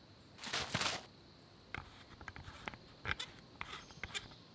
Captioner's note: shaking water